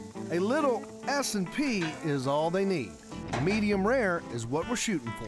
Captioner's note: none